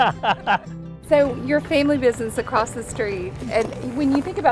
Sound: laughing

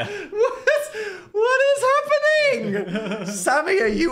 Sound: laughs

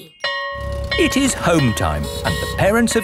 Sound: school bell ringing

